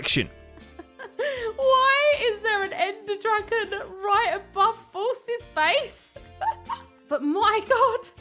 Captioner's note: confused laughter